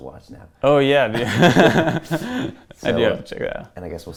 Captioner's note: laughs